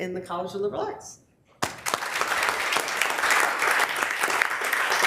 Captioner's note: members applauding